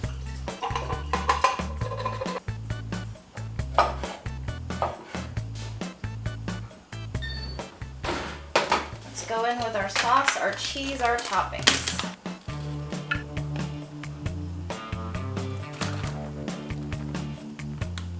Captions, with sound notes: (sounds of bowl clanking) (upbeat music) Let's go in with our sauce, our cheese, our toppings. (upbeat music)